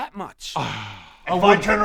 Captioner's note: gasp